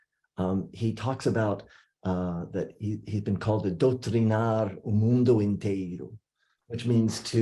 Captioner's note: non-english speech